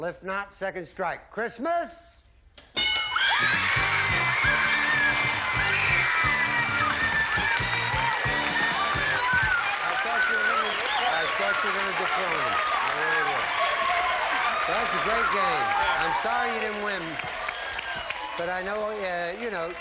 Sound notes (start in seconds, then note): 2.7 bell; 2.9 applause